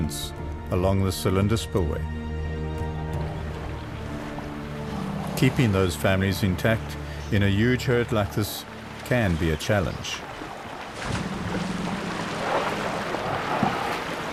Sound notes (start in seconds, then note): 6.8 animals calling